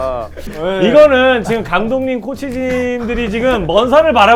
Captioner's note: cough cough